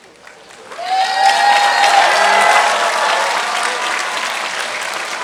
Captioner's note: audience cheering and clapping